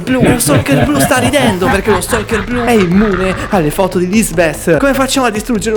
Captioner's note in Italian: risate